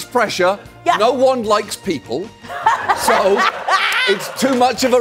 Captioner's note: laughing